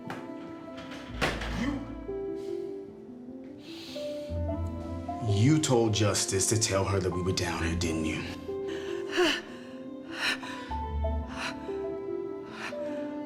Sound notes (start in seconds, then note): 8.4 breathing heavily